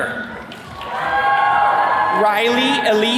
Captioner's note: attendees cheering